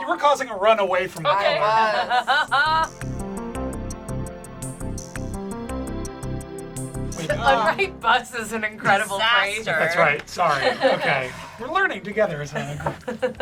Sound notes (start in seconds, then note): 1.3 laugh; 3.0 light, bubbly music